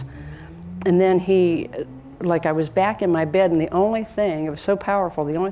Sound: none

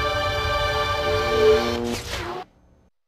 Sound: mechanical sounds

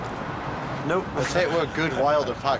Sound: laughs

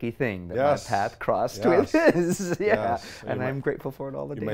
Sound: laughs

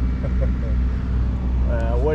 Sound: chuckles

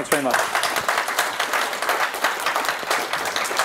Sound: applause

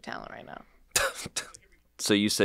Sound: laughs

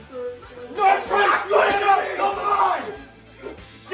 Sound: yelling

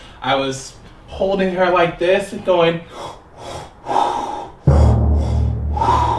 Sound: practicing pregnancy breathing noises

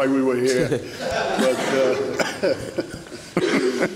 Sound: laughing

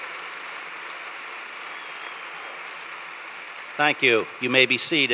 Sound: applause

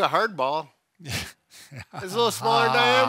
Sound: laughing

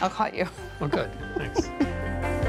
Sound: chuckles

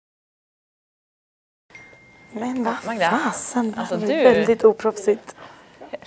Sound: phone goes off

